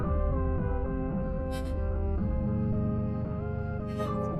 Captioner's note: weeping softly